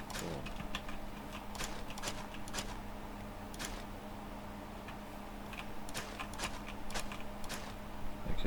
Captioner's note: typing